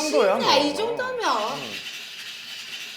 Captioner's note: steaming sound